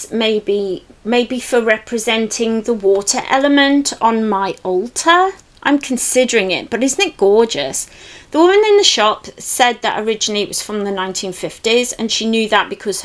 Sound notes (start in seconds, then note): none